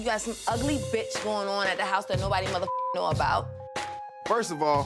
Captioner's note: beep